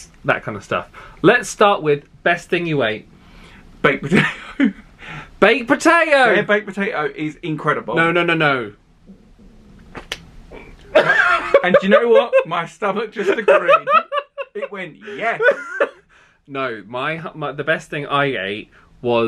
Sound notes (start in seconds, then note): 9.0 belly rumbles; 10.8 laughing